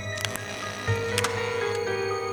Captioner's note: drilling